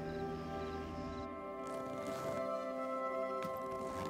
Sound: zipper zips

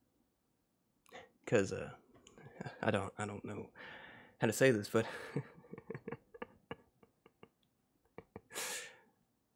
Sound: slightly laughs

